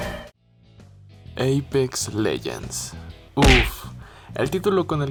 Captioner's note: uff